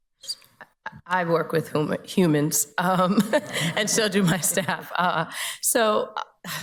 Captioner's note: chuckles